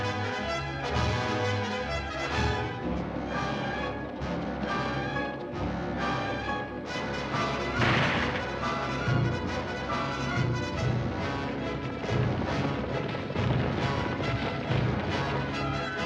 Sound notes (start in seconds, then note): 7.7 gunshot; 9.6 suspenseful dramatic music; 12.2 hooves pounding; 12.2 suspenseful dramatic music